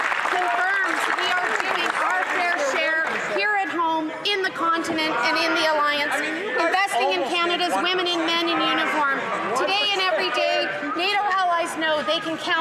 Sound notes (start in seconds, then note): 2.6 some Applause